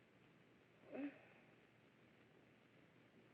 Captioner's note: moans